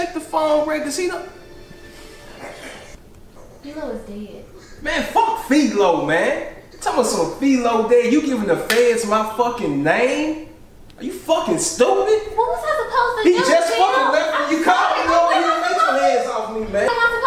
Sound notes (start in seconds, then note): 13.2 man yelling